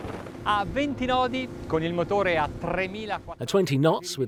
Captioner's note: speaking foreign language